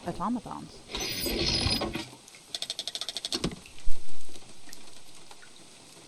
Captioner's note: gears grinding with metal squealing followed by mechanical clicking